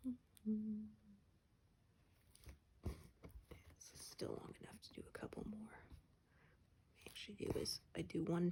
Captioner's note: hums